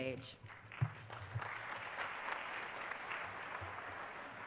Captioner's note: applause